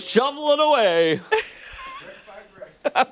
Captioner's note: laughter